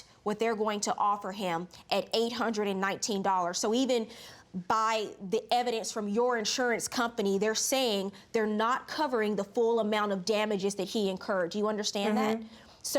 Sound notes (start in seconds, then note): none